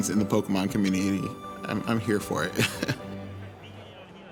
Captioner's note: chuckles